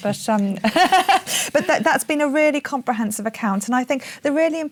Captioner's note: laughs